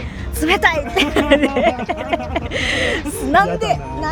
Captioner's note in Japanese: 笑い